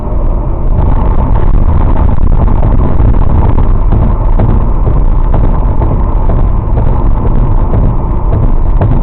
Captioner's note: audio breaks again